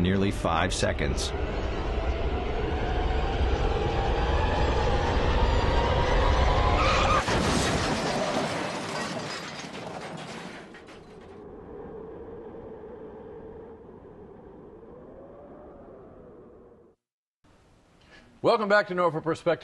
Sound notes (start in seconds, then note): 6.2 sounds of crash